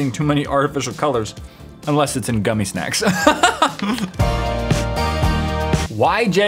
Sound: laughs

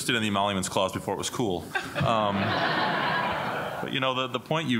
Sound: laughter

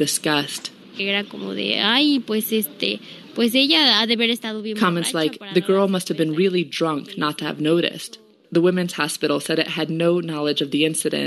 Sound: speaking in Spanish

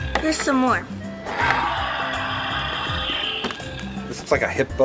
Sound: dinosaur growls; dinosaur growls

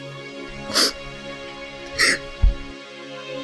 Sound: sobbing

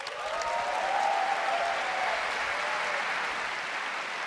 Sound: cheers and applause

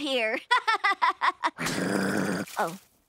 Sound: laughing; groaning

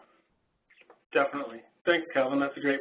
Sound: voiceover

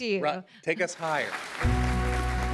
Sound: applause

